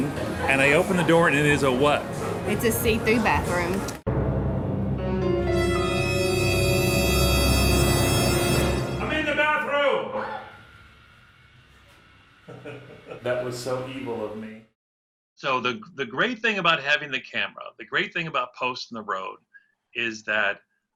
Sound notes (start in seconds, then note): 4.0 dramatic music; 10.1 woman screams